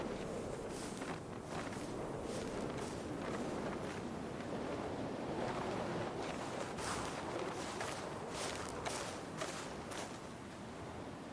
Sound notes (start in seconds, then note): 6.2 footsteps approaching